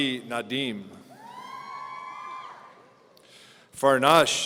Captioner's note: audience cheering